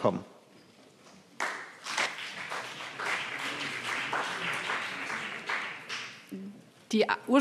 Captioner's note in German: Beifall BÜNDNIS 90/DIE GRÜNEN und vereinzelt CDU